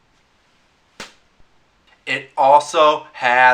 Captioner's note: slap